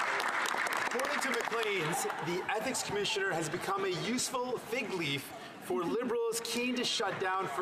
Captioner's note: some Applause